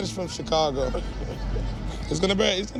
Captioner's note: crying